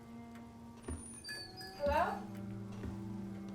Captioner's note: somber music continues; bells jingle